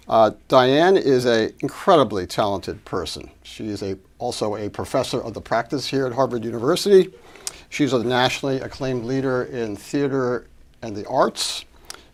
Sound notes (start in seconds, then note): none